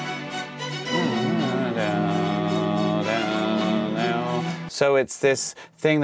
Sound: mimicking chords

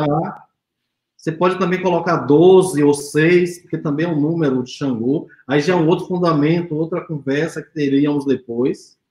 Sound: speaks portuguese

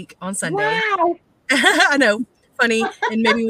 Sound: laughs

